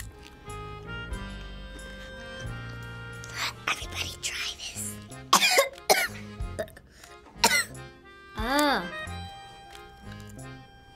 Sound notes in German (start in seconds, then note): 3.3 flüstert; 5.3 hustet